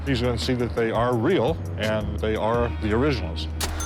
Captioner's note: register dings